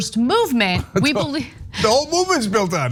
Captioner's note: laugh